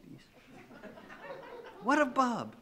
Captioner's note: laughing